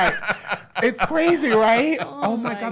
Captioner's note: laughs